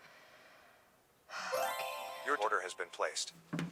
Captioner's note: computer chimes